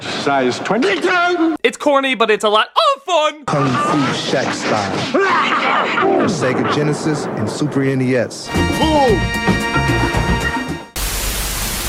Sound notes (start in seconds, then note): 3.0 shudders; 5.2 coach still doing the evil laugh thing